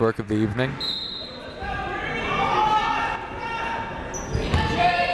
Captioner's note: whistle blaring